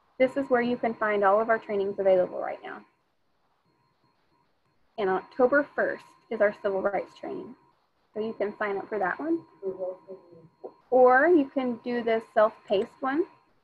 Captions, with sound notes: this is where you can find all of our trainings available right now. And October 1st is our civil rights training. So you can find out for that one (woman speaking faintly) Or you can do this self-paced one